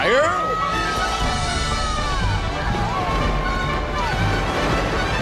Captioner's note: riders screaming